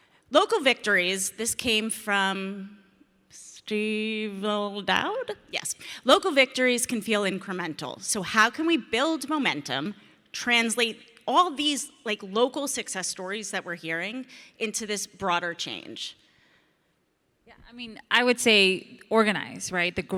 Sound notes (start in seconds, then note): none